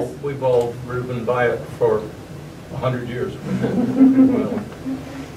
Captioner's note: laughter